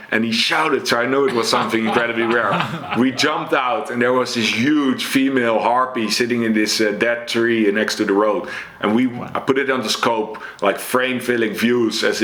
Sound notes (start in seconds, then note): 1.2 laugh